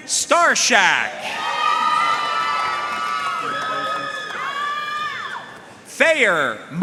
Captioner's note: audience cheering and applauding